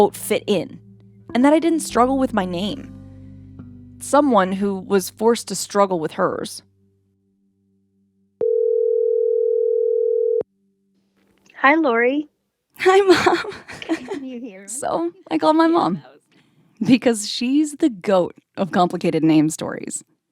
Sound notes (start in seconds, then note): 8.4 soundbite of phone ringing